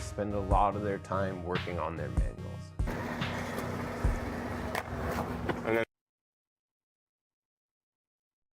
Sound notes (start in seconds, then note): 2.9 skateboard rumbling